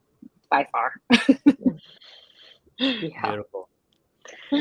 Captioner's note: laughs